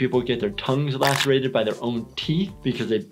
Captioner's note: tongue crunching